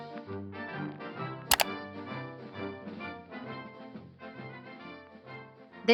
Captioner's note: computer mouse clicks